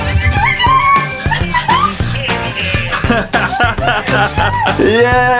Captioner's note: excited noises